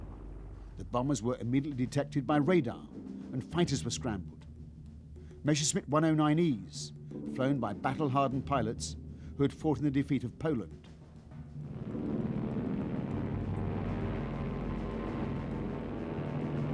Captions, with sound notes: The bombers were immediately detected by radar, and fighters were scrambled. Messerschmitt 109Es, flown by battle-hardened pilots, who had fought in the defeat of Poland. [PLANE HUMMING]